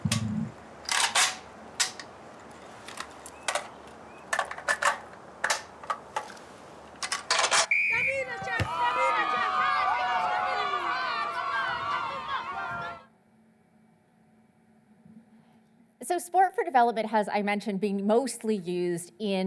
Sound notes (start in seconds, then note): 7.6 whistle blowing; 7.7 kids cheering